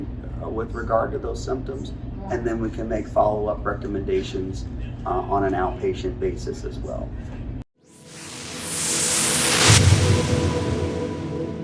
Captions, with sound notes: with regard to those symptoms and then we can make follow up recommendations on an outpatient basis as well. (wooshing)